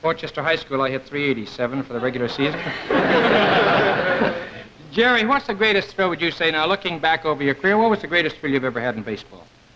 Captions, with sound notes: - Port Chester High School, I hit 387 for the regular season. (audience laughs) Jerry, what's the greatest thrill would you say? Now, looking back over your career, what was the greatest thrill you've ever had in baseball?